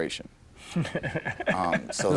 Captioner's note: laughs